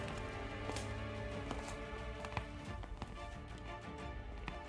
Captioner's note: footsteps